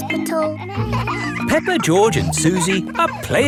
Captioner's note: kids laughing